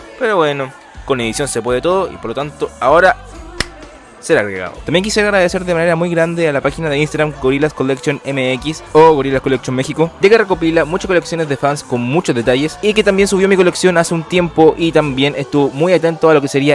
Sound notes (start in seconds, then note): 3.6 clap